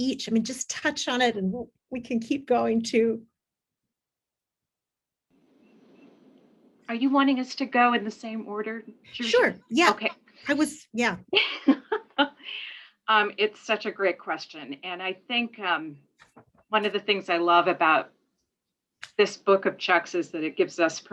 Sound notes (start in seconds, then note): 11.4 laughs